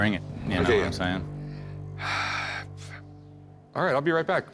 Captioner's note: sigh